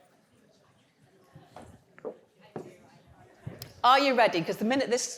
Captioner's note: audience indistinctly chattering